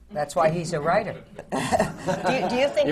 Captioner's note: laughter